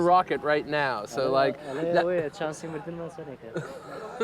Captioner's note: soldier speaking foreign language; laughing